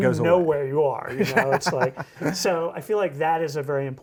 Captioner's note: laughs